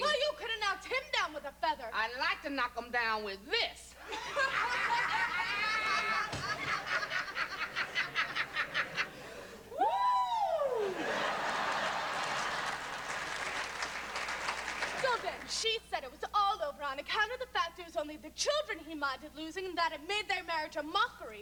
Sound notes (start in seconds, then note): 4.0 both laughing loudly; 11.2 audience laughing, applauding